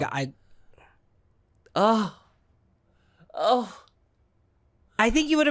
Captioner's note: sighing